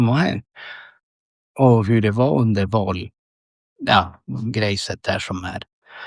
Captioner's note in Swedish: drar efter andan